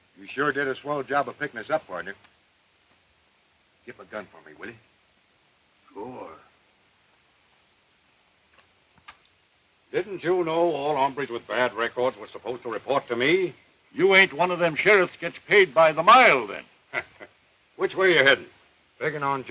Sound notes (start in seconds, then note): 16.9 sheriff laughs